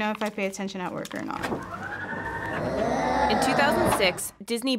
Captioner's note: claw machine whirring